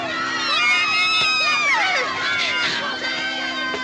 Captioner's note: wailing Continues